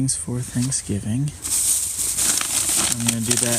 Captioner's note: bags rustling